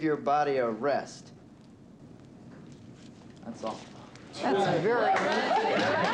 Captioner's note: students applauding; students cheering